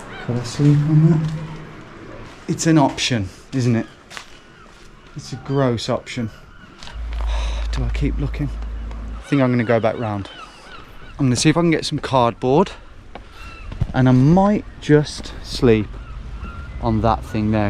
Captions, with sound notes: Could I sleep on that? It's an option, isn't it? It's a gross option. (sighs) Do I keep looking? I think I'm gonna go back 'round. I'm gonna see if I can get some cardboard and I might just sleep on that thing there.